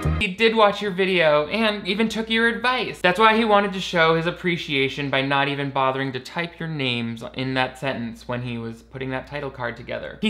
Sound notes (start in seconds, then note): none